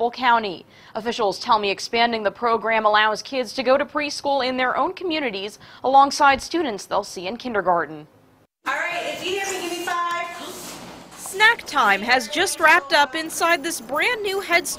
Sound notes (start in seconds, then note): 11.2 sound of teacher